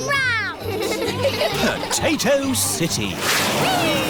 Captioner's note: all giggling